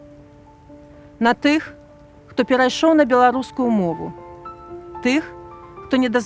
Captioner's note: in Belarusian